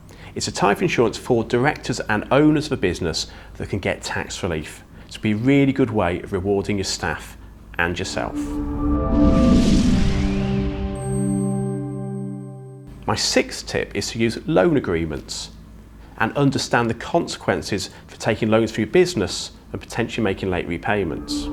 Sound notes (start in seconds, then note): 8.1 gentle music; 8.1 graphics whooshing; 20.8 gentle music; 21.0 graphics whooshing